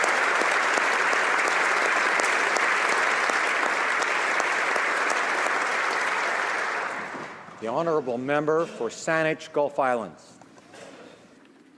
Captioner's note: applause